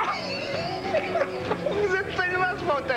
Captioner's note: Rire